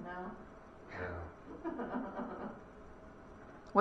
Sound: laughter

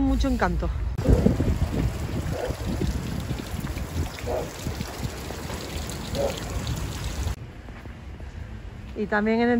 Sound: noise of water

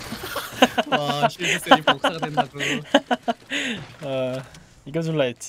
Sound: laughs

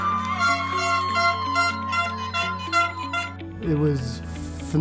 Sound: cheering; horn honking

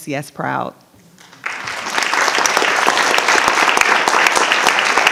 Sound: audience applauding

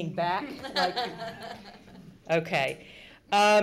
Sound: laughing

